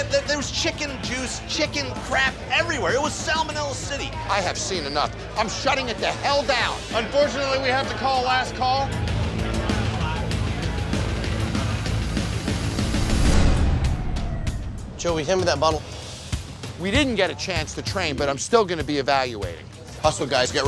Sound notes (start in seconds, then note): 9.5 upbeat tense music; 13.8 siren wailing